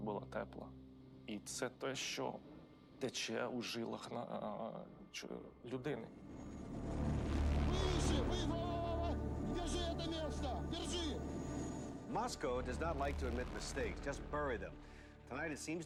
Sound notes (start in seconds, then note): 6.7 men yelling in Russian